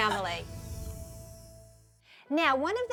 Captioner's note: laughter